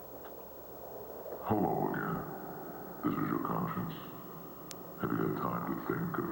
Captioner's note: distorted voice